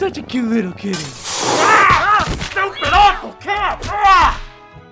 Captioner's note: glass shatters; hiss